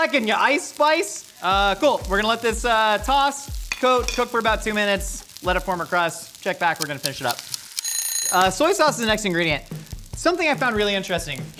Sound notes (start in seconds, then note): 7.8 timer Ringing; 8.2 timer Ticking